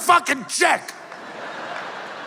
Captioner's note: laughter